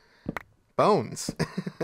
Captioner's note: laughs